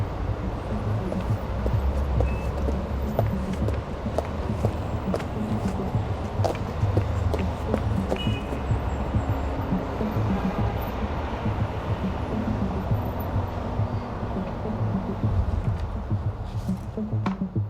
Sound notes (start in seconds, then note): 0.4 footsteps tapping; 8.2 traffic humming